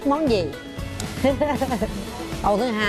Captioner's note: laughing